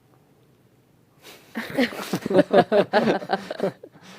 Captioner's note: laughter